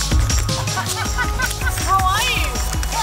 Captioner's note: laughter